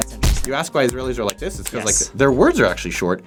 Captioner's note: snaps fingers